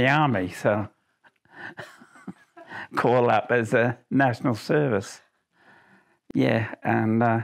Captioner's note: laughs